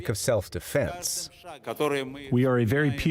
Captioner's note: through translator